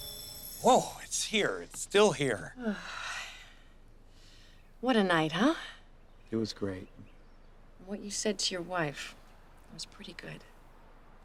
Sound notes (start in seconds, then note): 2.5 sighing